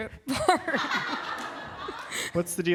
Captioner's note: laughter